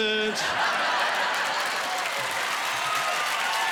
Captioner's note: laughing and applause